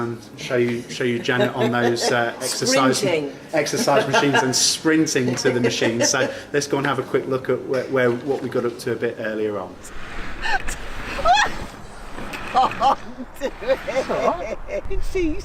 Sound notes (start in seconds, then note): 10.7 laughs